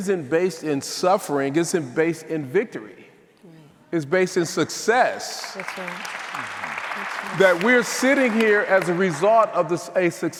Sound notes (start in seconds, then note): 5.4 audience applauding